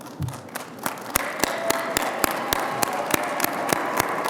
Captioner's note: audience applauding